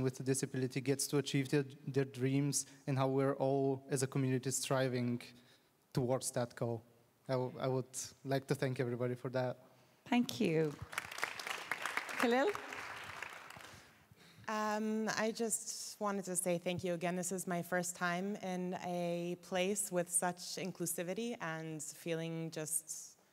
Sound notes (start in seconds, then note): 12.7 applause